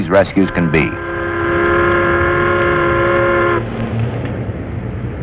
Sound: riverboat horn

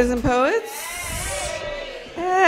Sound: audience cheers

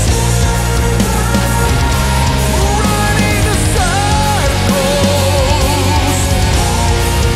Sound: desperate cries

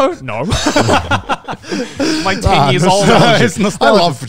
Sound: everyone laughs

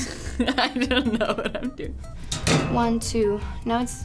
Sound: laughs

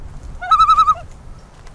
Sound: loon call

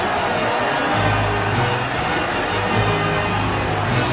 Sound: crowd goes wild!

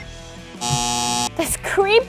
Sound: buzzer

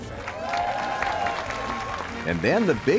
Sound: crowd cheering

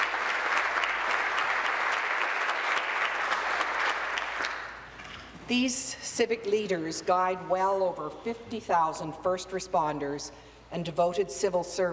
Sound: applause

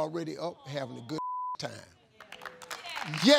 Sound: beep; audience applauds

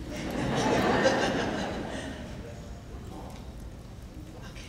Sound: laughing

